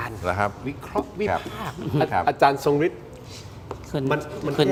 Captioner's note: takes a deep breath